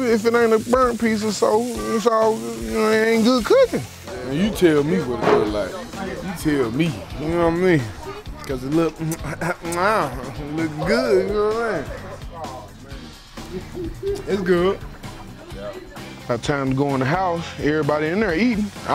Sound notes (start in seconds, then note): 8.8 smacking and licking fingers